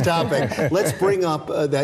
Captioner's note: guests laughing